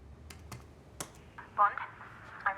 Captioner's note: clicks